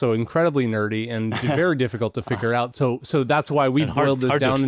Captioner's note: chuckles